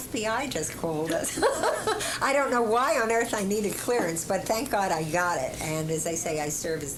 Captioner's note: laughter